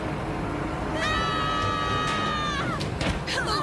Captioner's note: all yelling